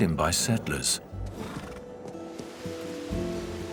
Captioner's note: horse snorts